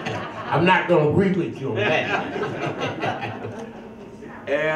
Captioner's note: laughs; laughs